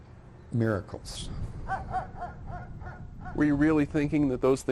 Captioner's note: dog barking